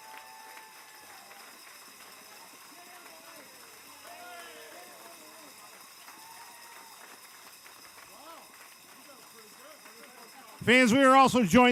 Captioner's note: cheers and applause